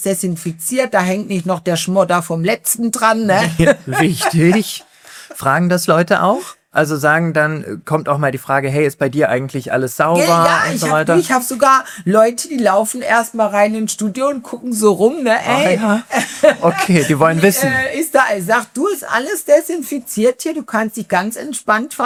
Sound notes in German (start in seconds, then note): 16.0 gelächter